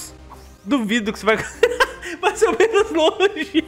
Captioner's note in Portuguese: risos